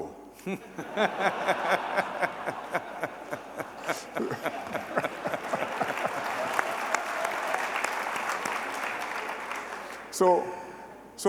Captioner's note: laughter and applause